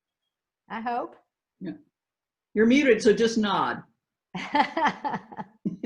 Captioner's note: laughs